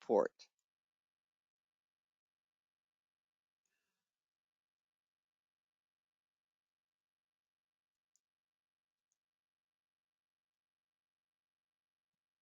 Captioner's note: 13 seconds pause